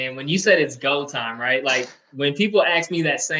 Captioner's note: chuckles